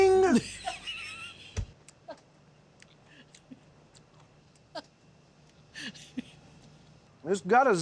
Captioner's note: laughter